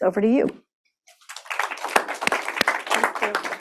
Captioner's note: applause